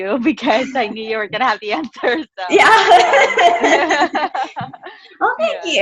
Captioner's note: laughs